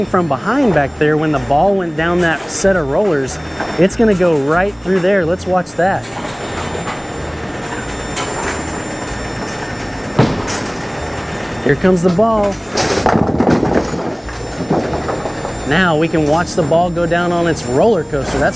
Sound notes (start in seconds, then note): 11.9 pins clattering